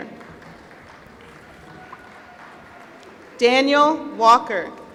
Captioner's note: applause